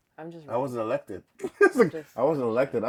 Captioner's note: laughs